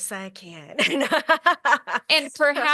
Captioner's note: laughs